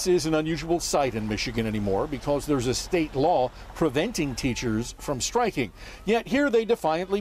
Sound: horns honking

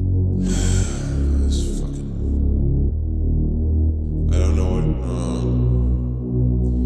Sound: sighs

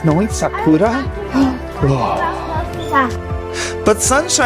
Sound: gasps

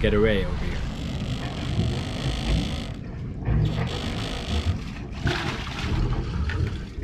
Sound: motor whirring; water splashing

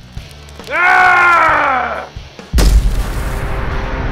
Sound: yelling

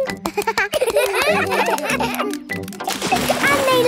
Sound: children laugh

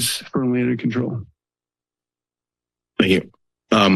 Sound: silence

